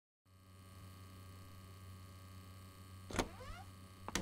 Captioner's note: humming of freezer